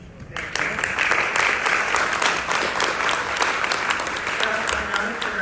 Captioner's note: audience applauding